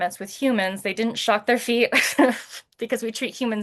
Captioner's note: laughs